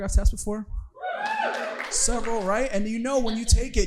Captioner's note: audience cheering